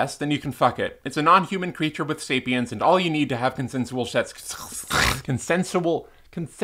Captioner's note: misspeak, cough